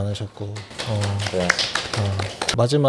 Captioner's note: applause